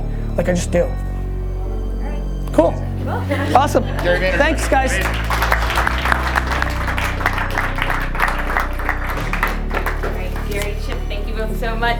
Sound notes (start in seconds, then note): 5.0 applause